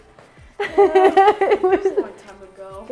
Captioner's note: laughing